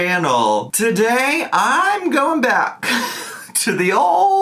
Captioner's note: laughing